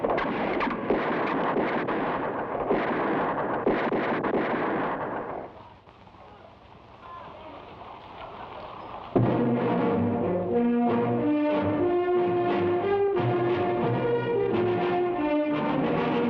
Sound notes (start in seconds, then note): 7.2 people chatter; 9.1 thrilling music